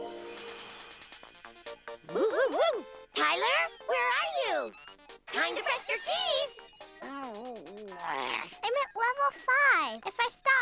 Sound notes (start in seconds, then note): 0.0 video game music playing; 7.0 growls